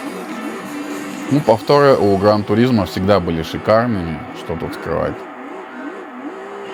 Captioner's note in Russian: крик